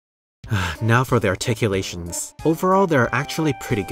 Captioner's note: sigh